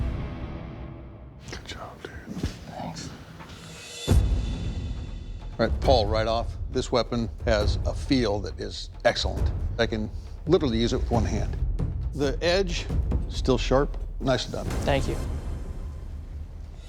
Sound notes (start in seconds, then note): 1.0 whispering